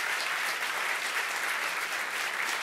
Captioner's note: applause